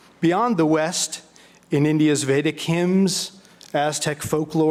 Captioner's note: none